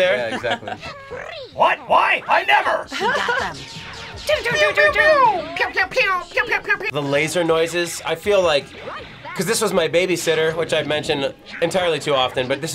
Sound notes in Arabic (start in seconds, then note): 4.3 يُصدر أصوات بيوينج